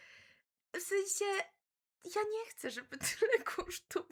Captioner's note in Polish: śmiech